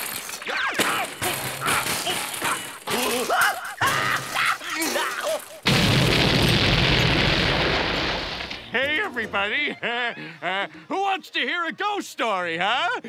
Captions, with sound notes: [groaning] [screaming] Hey, everybody, uh, uh, who wants to hear a ghost story, huh?